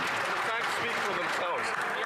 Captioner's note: some Applause